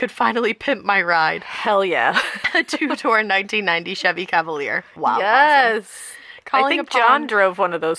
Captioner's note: laughter